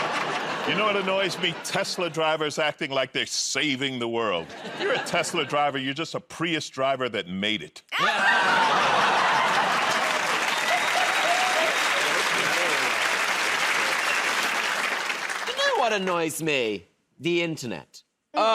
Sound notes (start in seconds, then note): 7.9 laughter; 11.6 cheers and applause